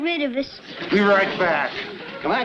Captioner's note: audience laughs